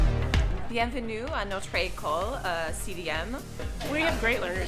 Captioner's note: speaking foreign language